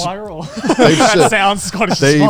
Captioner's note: men laughing